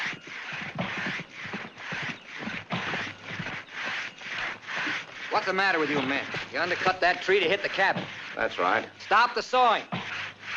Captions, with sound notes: [ SAW SCRAPING ] What's the matter with you, man. If you undercut that tree, it will hit the cabin. - That's right. - Stop the sawing!